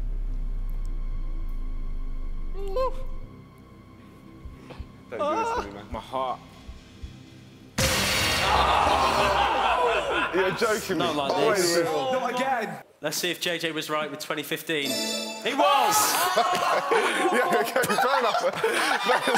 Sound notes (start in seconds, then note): 0.3 sinister music; 2.4 high pitched groan; 6.5 loud crescendo; 9.7 groaning; 14.8 chiming; 16.9 shouting